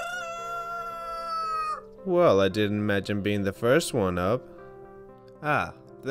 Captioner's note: cock crows